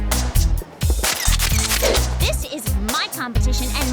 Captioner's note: camera shutter